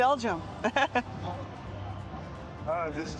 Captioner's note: laughs